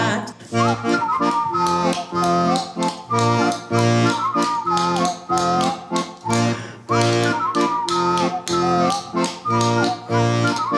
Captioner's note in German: Pfeifen und Löffelschlagen